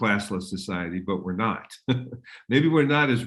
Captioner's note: laughs